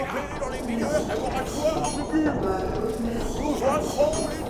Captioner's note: Robotic voice : Automatic mode activated !